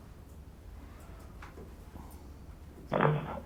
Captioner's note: phone ringing